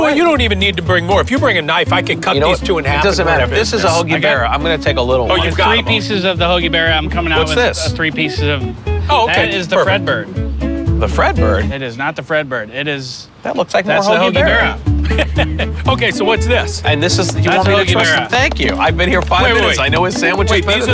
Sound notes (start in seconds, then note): 14.8 laughing